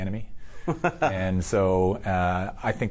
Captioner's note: laughs